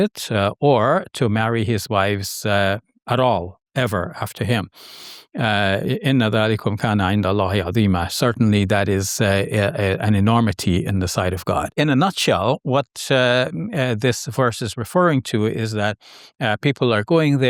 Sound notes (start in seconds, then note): 5.8 speaking Arabic